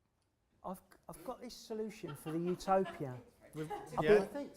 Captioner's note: laughter